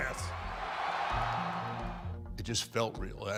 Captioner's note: crowd roaring